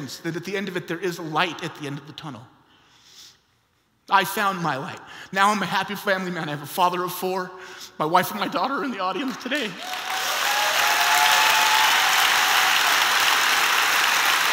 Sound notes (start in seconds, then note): 9.2 applause